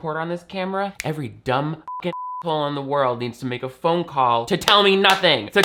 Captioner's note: beep